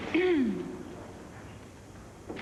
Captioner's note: teacher clears throat